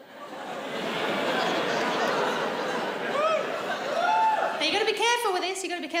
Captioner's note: audience laughs